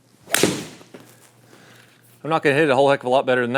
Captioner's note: ball cracking